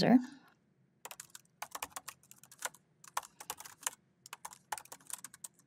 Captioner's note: keyboard clacking